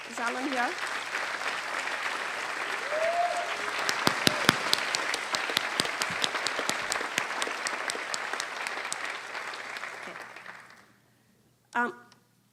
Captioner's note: applause